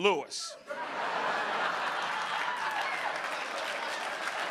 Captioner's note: audience laughing